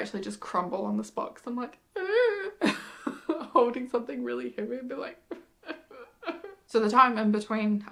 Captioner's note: cries in pain; sobs